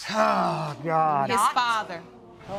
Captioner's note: audience gasp